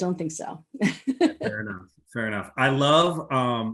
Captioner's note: laughs